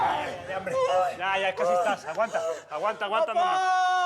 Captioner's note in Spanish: quejidos